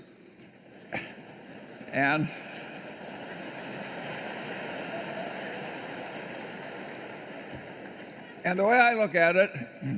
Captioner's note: laughter